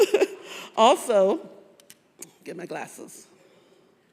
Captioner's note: laughs